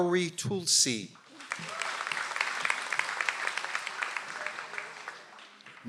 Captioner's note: audience applauds